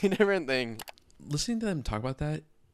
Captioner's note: computer mouse clicking